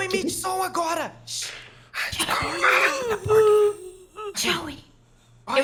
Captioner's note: zombie moaning